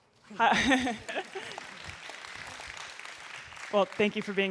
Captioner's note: everyone clapping